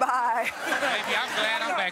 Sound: audience laughing

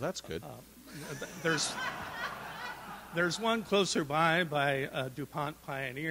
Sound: audience laughs

